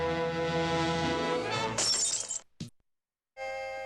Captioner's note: glass breaks